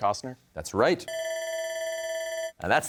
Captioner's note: bell ringing